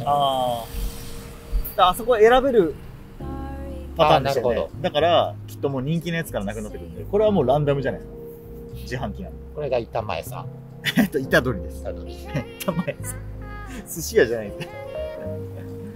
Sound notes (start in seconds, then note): 12.2 laughs